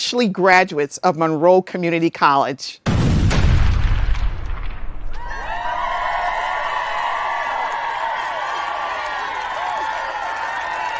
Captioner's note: sound of explosions and cheering